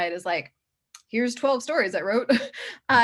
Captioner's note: chuckles